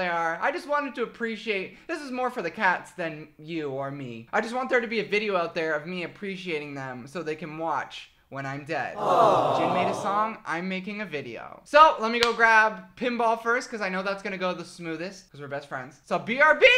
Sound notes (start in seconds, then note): 8.9 audience awing; 12.2 clap